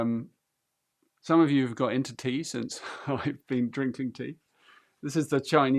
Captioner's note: chuckles